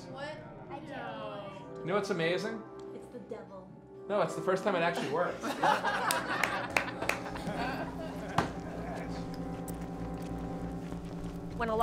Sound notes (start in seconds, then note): 5.0 crowd laughs; 7.6 eerie organ music